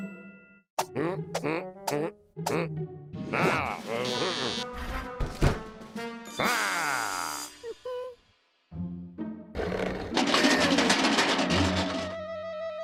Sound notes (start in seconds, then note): 7.9 whimpers